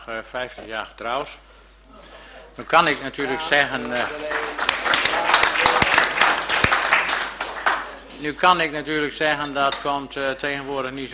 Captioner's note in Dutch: er klinkt applaus